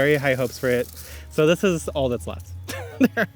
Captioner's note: laughs